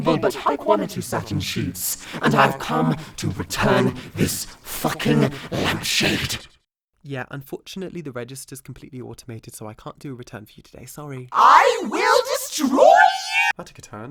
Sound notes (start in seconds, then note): none